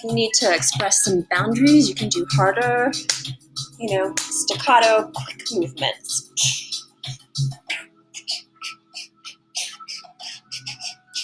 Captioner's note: pushing air out of mouth in rhythm with punches